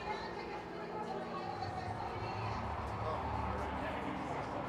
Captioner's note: crowd chattering